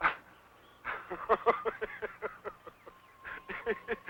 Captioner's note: laughing